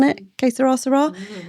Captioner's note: speaking in foreign language